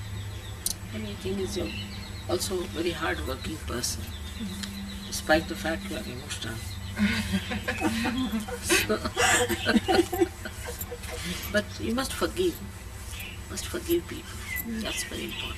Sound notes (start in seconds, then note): 7.0 laughter